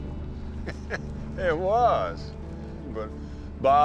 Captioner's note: chuckling